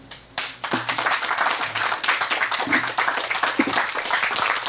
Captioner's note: audience applauds